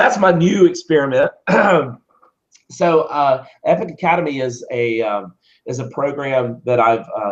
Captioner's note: cough